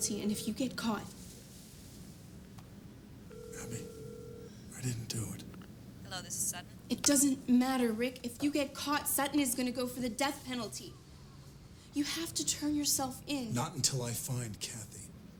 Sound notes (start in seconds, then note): 3.2 telephone ringing